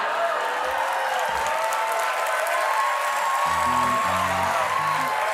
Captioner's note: cheers and applause